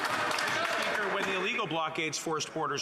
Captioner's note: applause